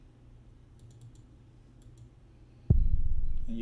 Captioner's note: click